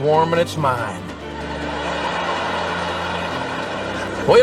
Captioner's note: laughter